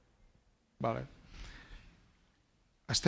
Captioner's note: speaking spanish